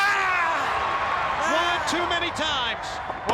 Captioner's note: crowd cheering